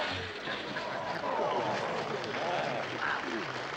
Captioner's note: crowd murmurs; audience applauds